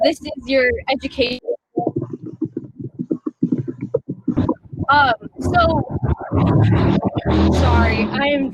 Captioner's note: technical glitch